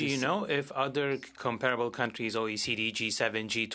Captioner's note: speaking French